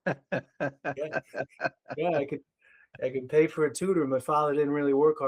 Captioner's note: laughing